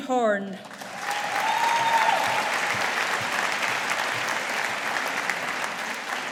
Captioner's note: audience applauding